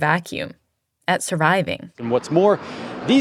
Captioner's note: soundbite of archived recording